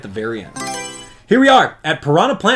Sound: Mario Selection Sound

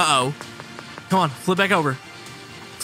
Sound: walking sound

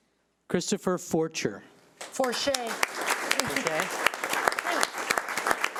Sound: audience applauding

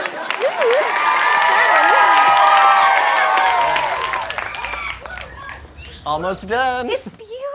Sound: audience cheering

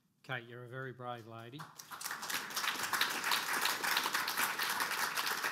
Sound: audience applause

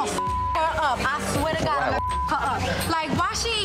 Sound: beep

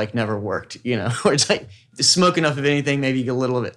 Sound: laughs

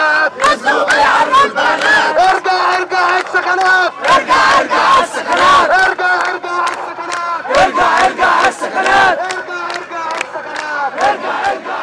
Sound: chants

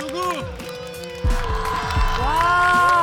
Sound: their heart beats

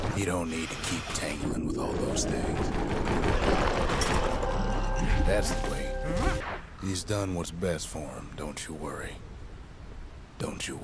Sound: in-game audio

